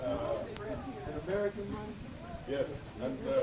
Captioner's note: speaking in foreign language